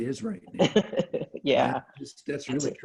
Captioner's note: laughs